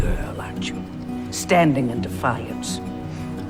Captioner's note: voiceover